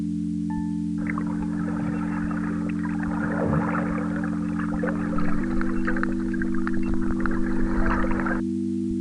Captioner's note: wind blowing